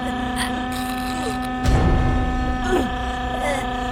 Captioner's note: gasping for air